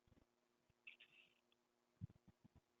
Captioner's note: pause